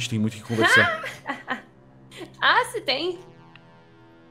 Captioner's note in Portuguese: risadas